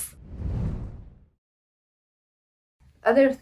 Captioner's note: air whooshing